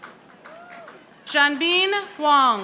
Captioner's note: audience applauding